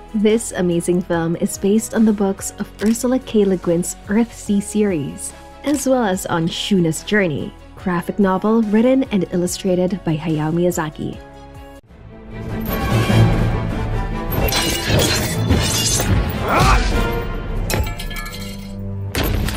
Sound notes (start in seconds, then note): 14.4 sword clashing